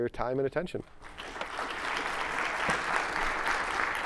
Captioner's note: applause